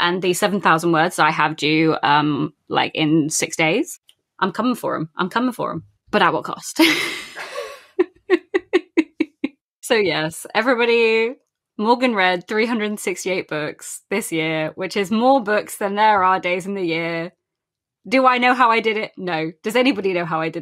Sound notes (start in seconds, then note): 9.4 laughs